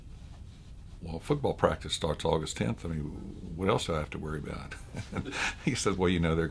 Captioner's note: laughs